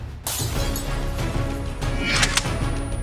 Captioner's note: sound of breaking glass